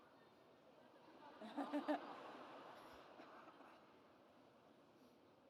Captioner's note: people laugh